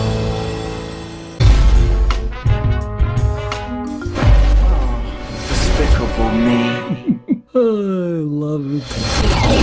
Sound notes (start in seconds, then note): 6.6 chuckling; 6.9 sighs